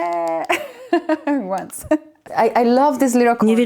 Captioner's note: laughs